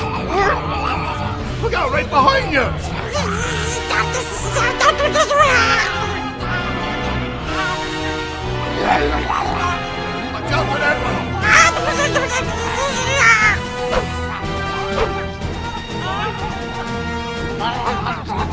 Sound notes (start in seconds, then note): 4.4 alien speaking gibberish; 7.1 high-tension orchestral music; 9.0 alien growling; 13.0 high-tension orchestral music